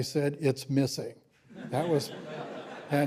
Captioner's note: laughter